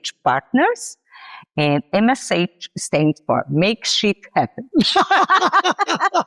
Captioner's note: laughs